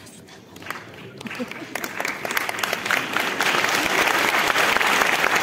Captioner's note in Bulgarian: аплодисменти